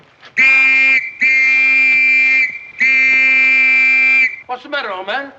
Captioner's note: whistle blowing